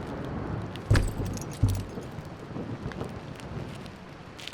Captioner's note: saddle thumping